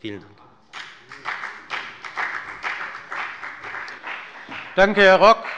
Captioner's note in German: Beifall bei der FDP